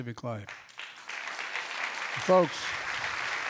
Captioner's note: applause